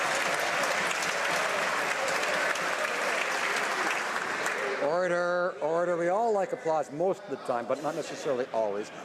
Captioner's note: some Applause